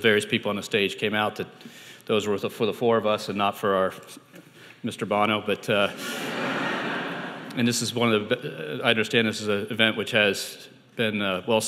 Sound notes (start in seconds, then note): 5.8 audience laughing